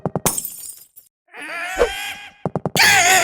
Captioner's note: vase breaks; mimi grunts